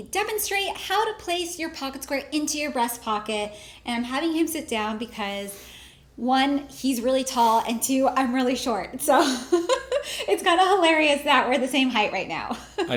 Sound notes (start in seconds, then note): 9.4 laughs